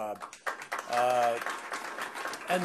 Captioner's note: applause